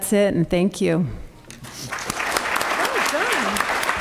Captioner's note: applause